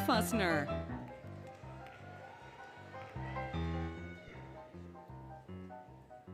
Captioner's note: applause, Cheering, Music